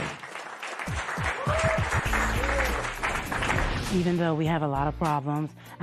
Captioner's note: cheers and applause